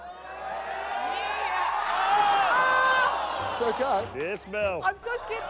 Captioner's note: audience calls encouragingly; cheering, disappointed shouts